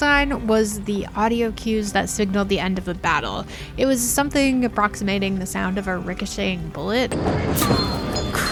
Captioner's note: something approximating the sound of a bullet